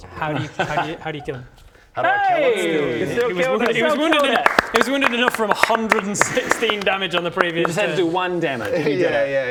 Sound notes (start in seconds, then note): 6.9 well deserved applause